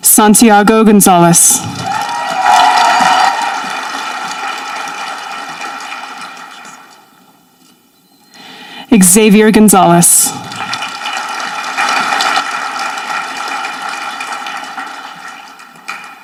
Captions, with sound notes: Santiago Gonzalez. (audience applauding) Xavier Gonzales. (audience applauding)